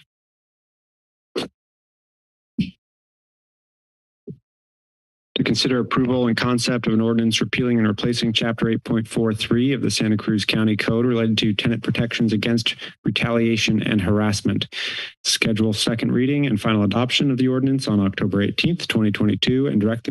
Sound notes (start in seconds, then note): 14.7 inhales